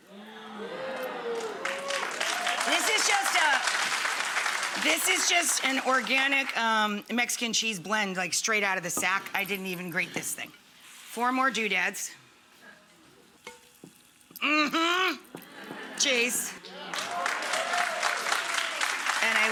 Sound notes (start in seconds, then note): 0.4 audience woots and claps; 15.4 audience laughs; 16.6 audience woots and claps